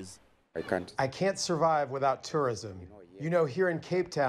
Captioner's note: through translator